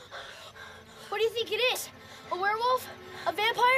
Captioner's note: none